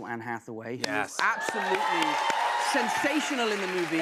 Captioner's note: cheers and applause